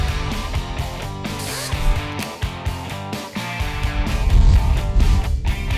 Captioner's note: impact wrench removing lug nuts